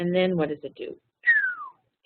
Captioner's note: whistling downward